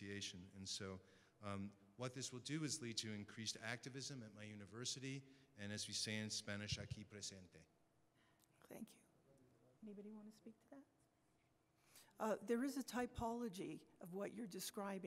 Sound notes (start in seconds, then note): 6.6 speaks Spanish